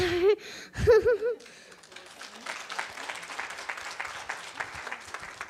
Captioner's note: audience applauds